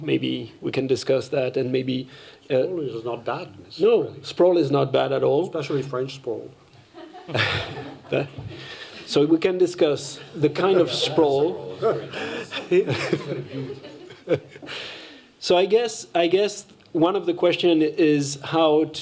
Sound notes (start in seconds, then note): 6.8 laughter; 11.8 laughter